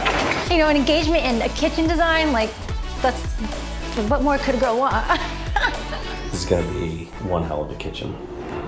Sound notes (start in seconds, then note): 4.9 laughs